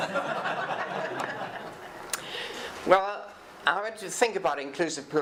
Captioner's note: audience applause